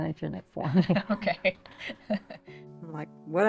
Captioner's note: chuckles